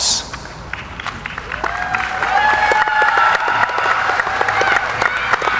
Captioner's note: audience applauding